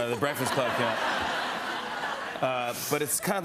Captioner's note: laughter